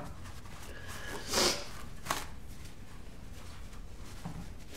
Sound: snuffles

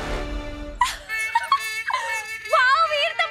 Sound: laughing

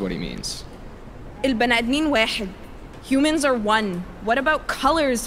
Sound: in Arabic

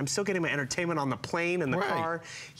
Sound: foreign language

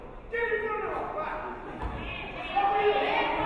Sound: none

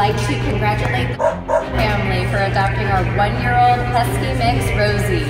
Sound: dog barks

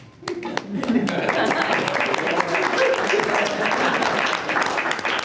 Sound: group applauding

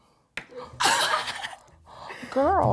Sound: laughing

